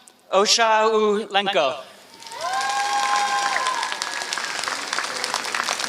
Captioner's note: applause